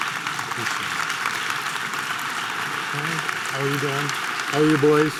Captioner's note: audience applause